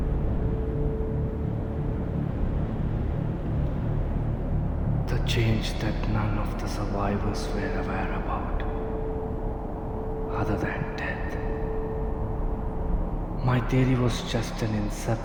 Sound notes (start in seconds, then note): none